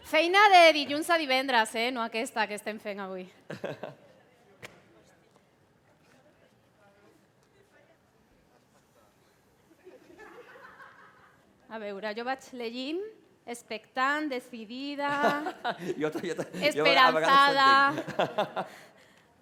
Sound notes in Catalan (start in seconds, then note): 3.4 Riures